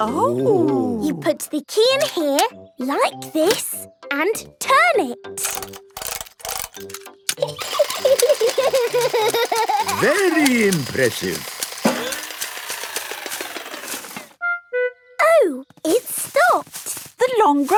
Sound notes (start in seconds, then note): 7.6 giggling; 7.6 George laughing